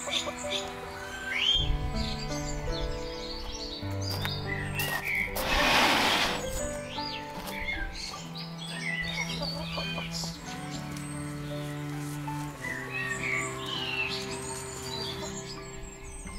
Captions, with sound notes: *gravel crunches* *door slides open* No bugs here...